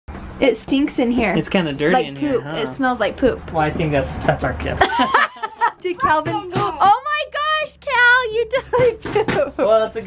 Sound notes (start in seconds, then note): 4.8 laughs